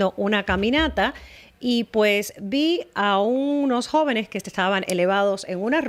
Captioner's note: Hablando ingl\s